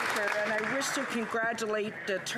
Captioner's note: some Applause